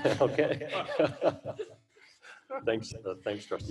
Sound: laughter

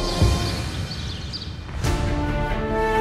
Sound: birds chirping

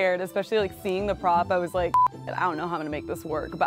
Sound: beep

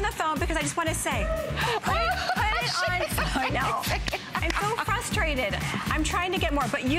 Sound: laughter

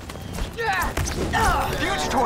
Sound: grunting

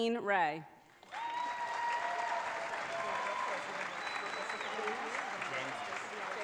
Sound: audience cheers and applauds

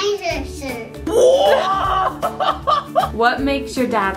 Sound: laughs

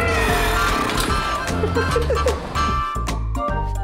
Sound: laughing

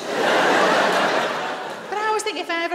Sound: laughter

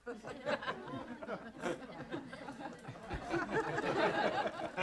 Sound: audience laughing

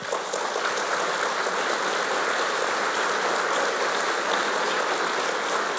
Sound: applause

